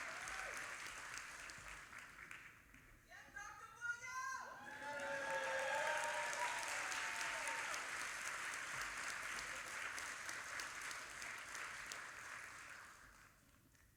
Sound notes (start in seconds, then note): 3.3 audience member shouting; 4.6 audience applauding